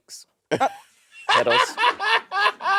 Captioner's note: Monét laughing